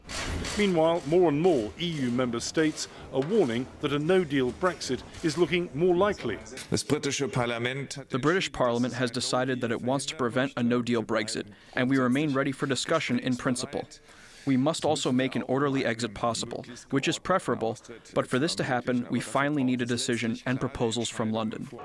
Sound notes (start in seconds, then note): 7.8 through translator